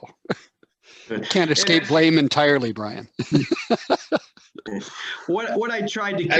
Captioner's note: laughs